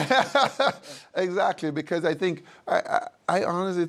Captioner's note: laughs